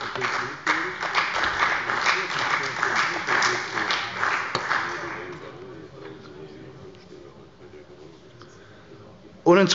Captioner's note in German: Beifall bei der CDU und dem BÜNDNIS 90/DIE GRÜNEN